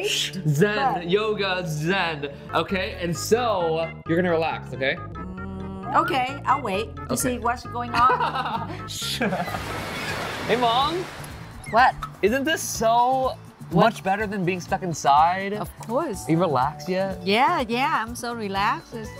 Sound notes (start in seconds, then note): 8.0 laughs